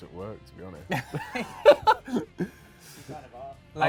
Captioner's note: laughs